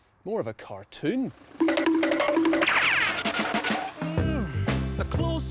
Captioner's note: cartoon sound effects